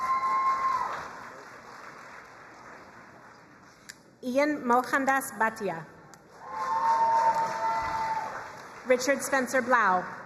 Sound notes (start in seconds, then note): 0.0 crowd cheering and applauding; 6.3 crowd cheering and applauding